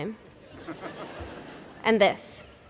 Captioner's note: laughter